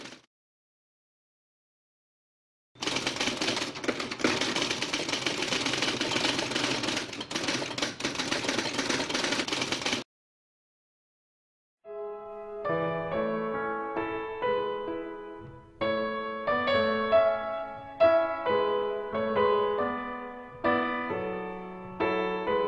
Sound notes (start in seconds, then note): 2.8 typewriter keys clicking; 11.9 classical piano music